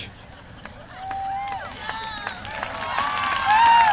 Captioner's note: applause